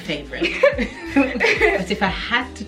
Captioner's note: laughs